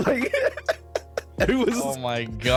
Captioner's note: laughing